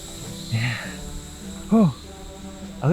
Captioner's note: sigh